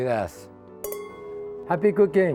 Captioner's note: glasses clinking